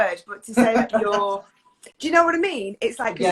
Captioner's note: laughs